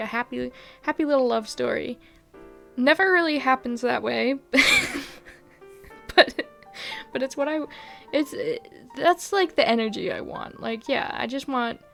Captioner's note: laughs